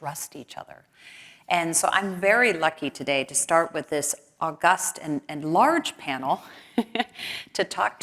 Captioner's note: laugh